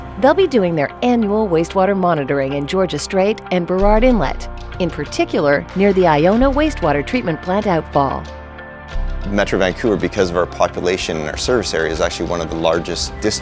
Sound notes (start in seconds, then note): 9.3 male Voice